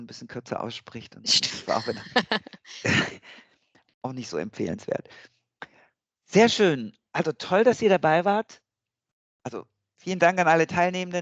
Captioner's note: laugh